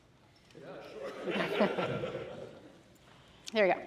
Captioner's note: laughter